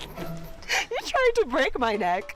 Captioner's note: laughs